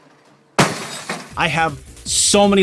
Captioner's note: crash!